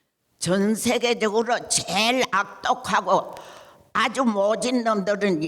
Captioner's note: speaking in foreign language